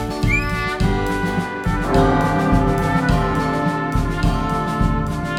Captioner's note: belltower rings